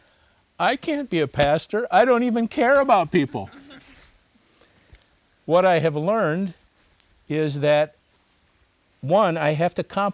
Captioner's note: laughter